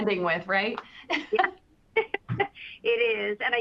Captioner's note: laughs